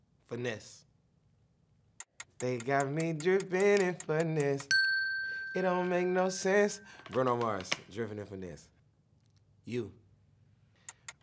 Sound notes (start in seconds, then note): 2.0 timer ticking; 4.6 bell dings